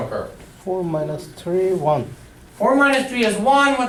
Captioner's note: voiceover